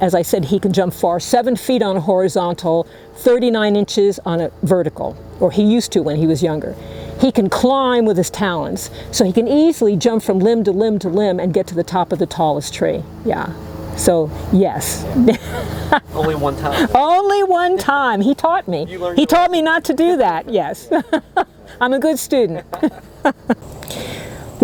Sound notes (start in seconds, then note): 18.4 laughing; 22.3 laughing